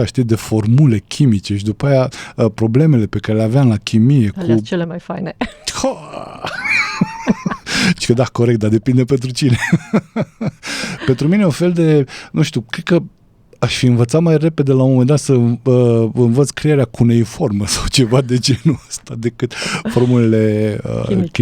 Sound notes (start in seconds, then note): 6.4 laughter